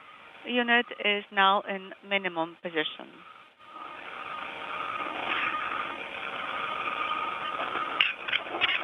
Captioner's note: speaking foreign language